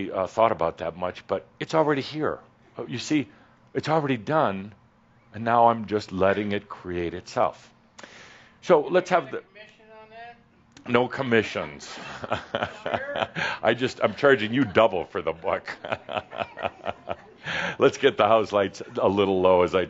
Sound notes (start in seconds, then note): 11.8 Adamus chuckles; 16.0 more chuckles